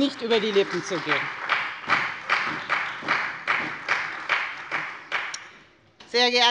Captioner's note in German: Beifall bei der FDP und der CDU